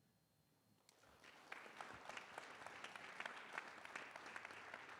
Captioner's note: audience clapping